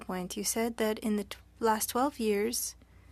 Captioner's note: speaking french